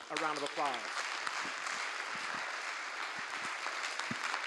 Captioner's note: applause